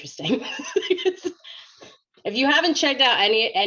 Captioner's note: laughs